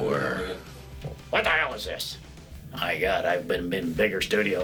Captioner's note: Imitating Brian Keith